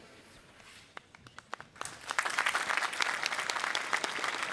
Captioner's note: applause